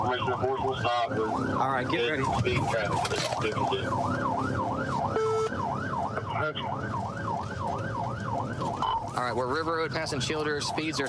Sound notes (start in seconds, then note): 0.1 warning sirens; 5.2 sirens wailing